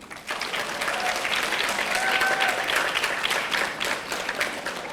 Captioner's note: audience applauding